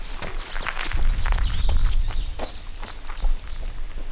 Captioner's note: birds chirping